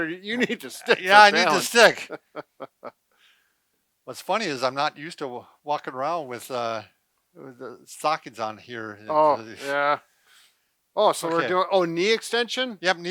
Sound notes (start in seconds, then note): 0.1 laughs